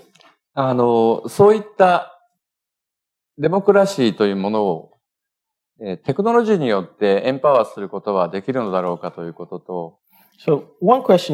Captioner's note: speaking japanese